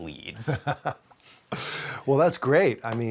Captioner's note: laughing